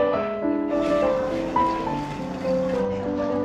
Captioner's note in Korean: 두두두